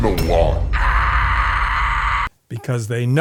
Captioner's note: enrages screaming